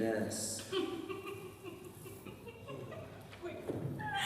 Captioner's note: OPHELIA giggles